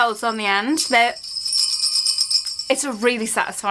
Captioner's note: bells jingle